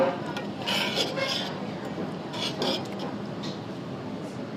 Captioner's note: spoon scraping